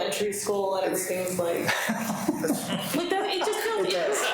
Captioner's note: people laughing